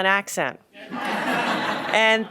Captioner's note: laughs